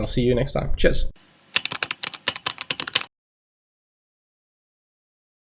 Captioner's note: typing